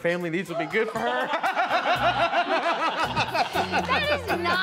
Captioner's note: laughter